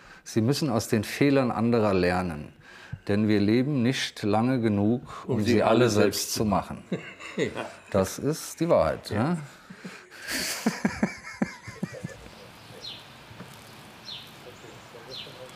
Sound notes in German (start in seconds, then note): 9.4 Sie lachen; 12.3 Vogeltschirpen